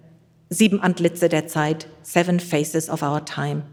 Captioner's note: speaks in German